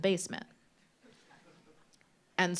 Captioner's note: laughter